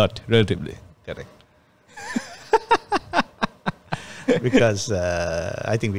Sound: laughs

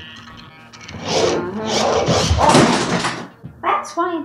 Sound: whirring, scraping, rattling, bang

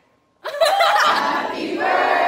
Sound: giggling

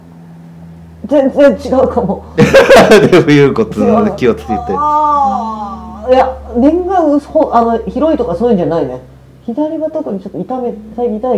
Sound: laughs

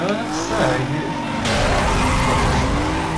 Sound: crash

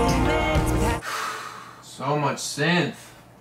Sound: sighs

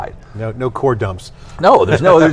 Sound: laughs

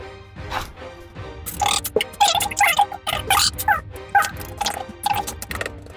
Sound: fast-forward squeaky sounds

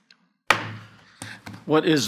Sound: gavel banging

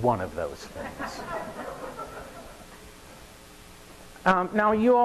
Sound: audience laughing

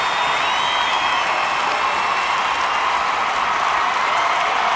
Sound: cheers and applause continue

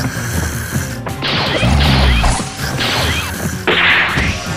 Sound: snoring and Fighting intensifies

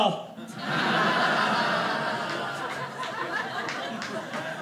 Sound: audience laughing

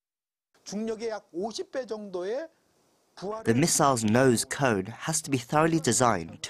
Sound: Korean

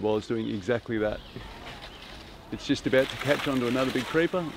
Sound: leaves rattle

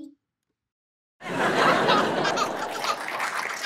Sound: audience laughs; audience applauds

